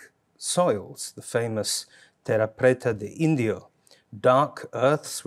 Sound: speaks in Portuguese

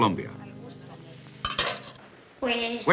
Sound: metal clanking

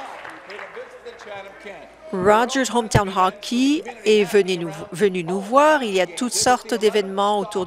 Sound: applause

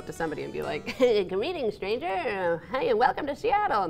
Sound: laughs

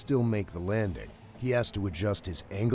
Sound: voiceover

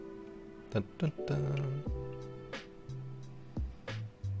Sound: humming

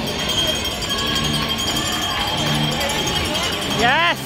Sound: bell rings. Crowd noise

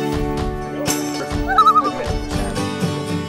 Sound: loon call

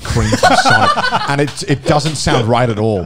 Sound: men laughing

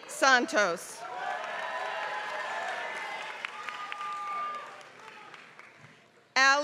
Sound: applause

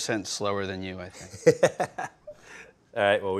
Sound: Ming laughs

